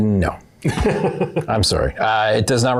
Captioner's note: laughs